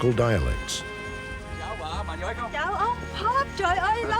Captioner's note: speaking laotian